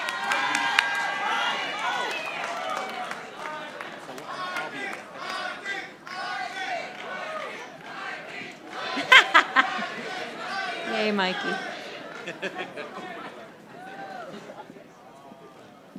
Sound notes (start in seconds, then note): 4.6 audience chanting; 8.8 chuckles; 12.7 announcer chuckles; 15.8 audience chattering